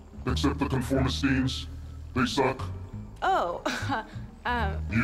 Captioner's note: chuckles